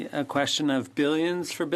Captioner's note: speaking French